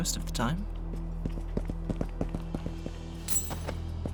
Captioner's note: footsteps